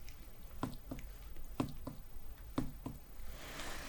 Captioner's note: tapping sounds